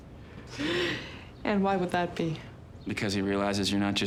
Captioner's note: laughs